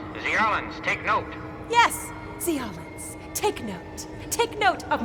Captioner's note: Sarcastic